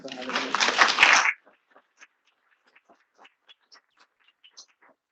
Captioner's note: attendees applauding